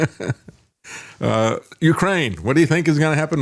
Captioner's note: laughing